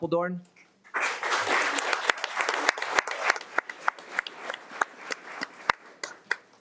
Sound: audience clapping

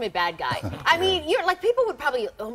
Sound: laughter

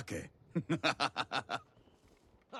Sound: laughs

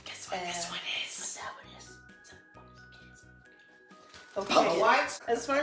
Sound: whispering

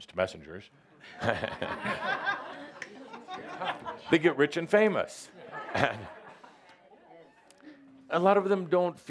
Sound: Adamus chuckles and audience laugher

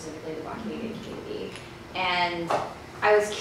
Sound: speaking foreign language

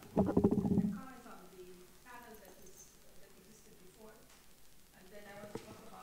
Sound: speaks off microphone

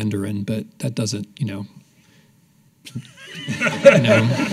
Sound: laughing

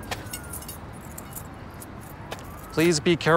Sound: keys jingle

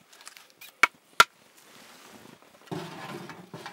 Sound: hammering sound

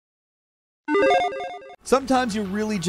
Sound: logo beeps

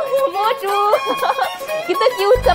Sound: laughing

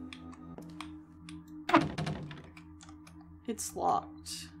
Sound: door Rattles

